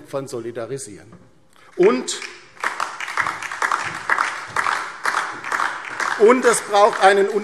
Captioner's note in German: Beifall DIE LINKE, vereinzelt SPD